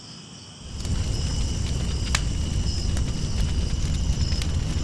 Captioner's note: fire blazing